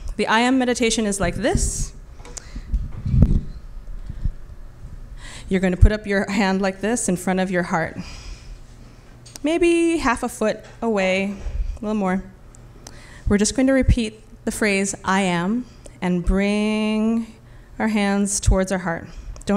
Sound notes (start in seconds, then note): none